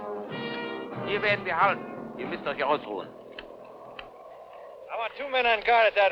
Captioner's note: speaking in a foreign language